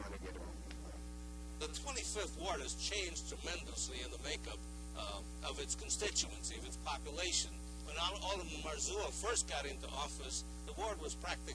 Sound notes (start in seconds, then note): 1.9 voice-over